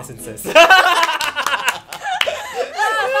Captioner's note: laughs